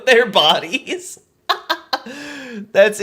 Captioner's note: laughs